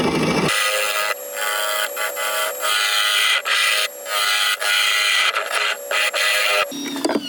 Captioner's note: woodturning sounds